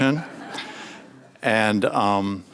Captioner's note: audience laughs